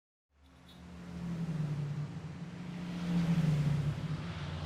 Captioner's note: cars driving